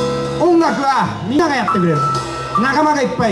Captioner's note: none